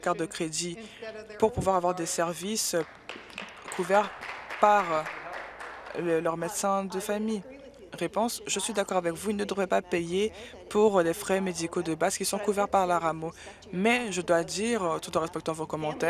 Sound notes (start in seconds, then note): 5.6 applause